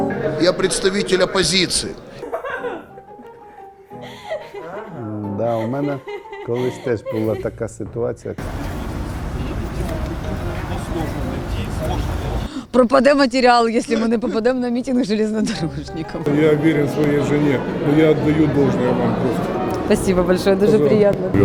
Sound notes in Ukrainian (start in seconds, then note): 8.4 шум міста